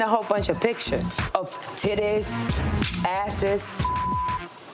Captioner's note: beep